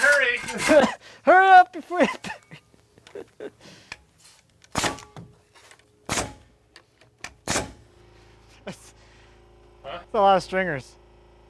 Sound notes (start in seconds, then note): 1.7 laughing; 4.6 nail gun shooting